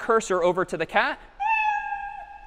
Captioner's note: meow